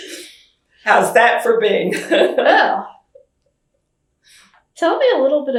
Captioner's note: laughs